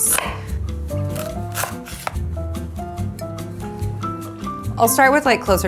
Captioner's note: relaxing music; knife tapping